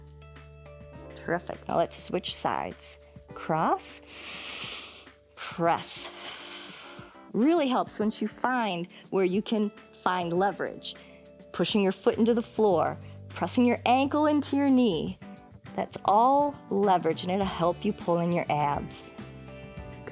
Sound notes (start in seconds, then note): 4.0 inhales; 6.0 exhales